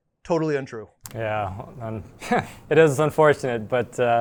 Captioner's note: laughs